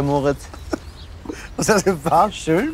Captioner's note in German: lacht